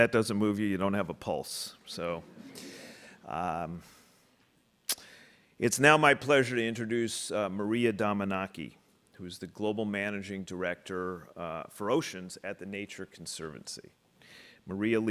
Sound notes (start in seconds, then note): 2.2 audience laughing